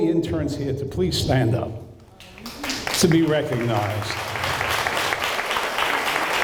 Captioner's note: applause